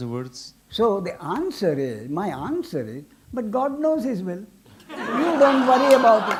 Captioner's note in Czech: smích